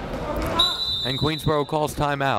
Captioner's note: whistle blaring